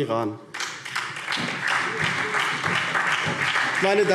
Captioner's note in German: Beifall SPD